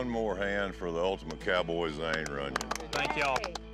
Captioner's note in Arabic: الجميع يصفقون